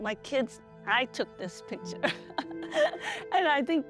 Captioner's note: laughs